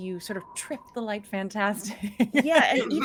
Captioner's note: laughs